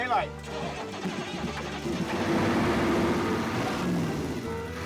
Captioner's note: engine turning over